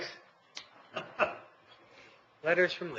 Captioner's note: laughing